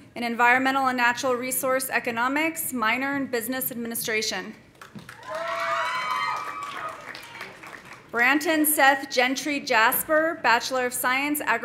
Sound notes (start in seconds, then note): 4.8 audience applauding; 5.1 audience cheering